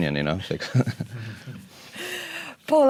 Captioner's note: laugh